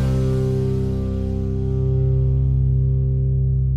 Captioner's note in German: Surfrauschen